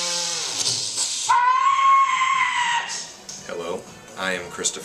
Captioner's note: screams